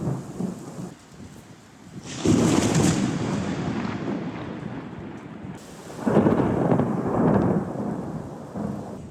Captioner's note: thunder